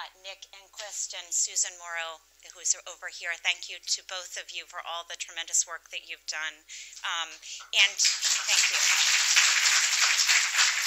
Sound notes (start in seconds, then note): 7.9 applause